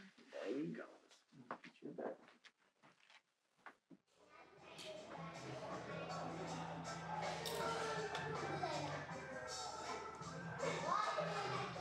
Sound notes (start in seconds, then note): 4.3 fade in children talking